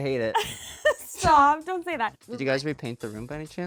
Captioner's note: laughs